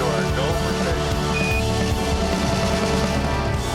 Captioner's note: device beeps